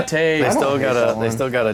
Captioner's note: groans